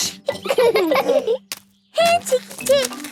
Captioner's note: laughing